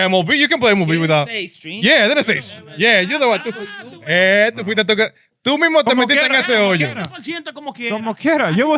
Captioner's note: speaking In Foreign Language